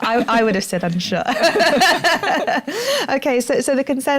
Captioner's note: laughter